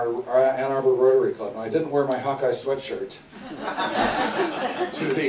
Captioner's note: audience Laughter